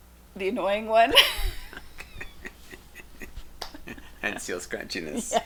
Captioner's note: laughing